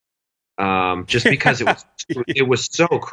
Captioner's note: laughs